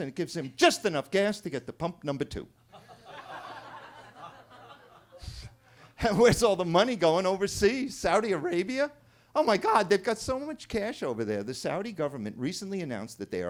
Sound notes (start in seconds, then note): 2.7 attendees laughing